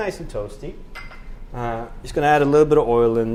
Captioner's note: bowl clangs